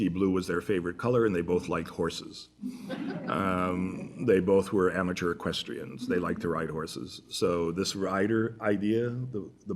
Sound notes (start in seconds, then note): 2.6 laughter